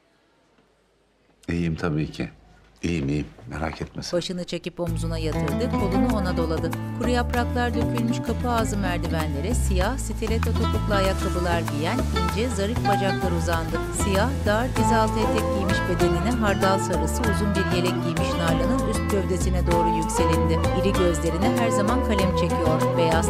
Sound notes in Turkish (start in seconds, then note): 11.0 Rüzgâr sesi